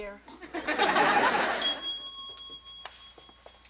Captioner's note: bell rings